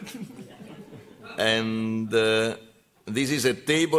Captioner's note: laughter